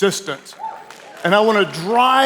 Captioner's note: audience applauding